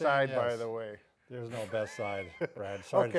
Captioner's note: laughs